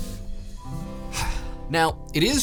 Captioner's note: sigh